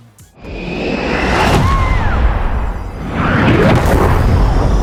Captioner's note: airplane whooshing